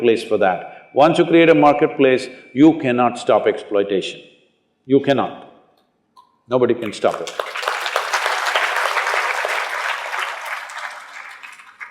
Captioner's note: applause